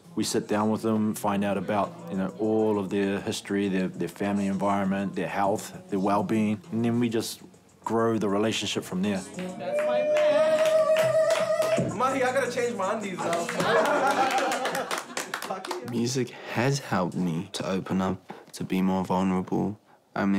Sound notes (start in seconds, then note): 9.3 clapping; 13.2 clapping and laughing